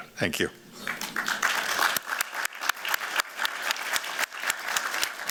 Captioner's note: applause